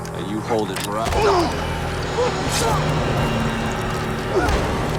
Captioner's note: grunts